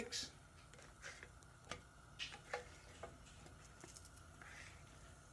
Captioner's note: griddle sizzling